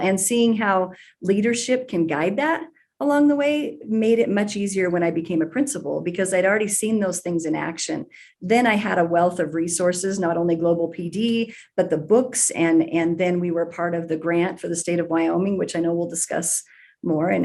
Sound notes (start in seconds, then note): none